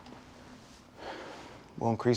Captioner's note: sighing